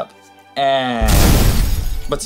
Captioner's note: blowing up sound effect